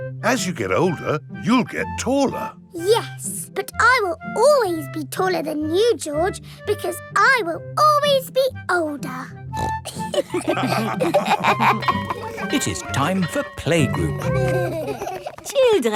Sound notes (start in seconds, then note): 9.5 snorts; 9.8 all laughing; 10.6 school bell ringing; 13.7 giggling